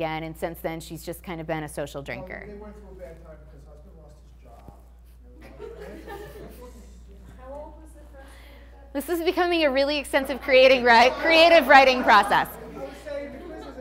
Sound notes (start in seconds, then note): 5.5 class laughing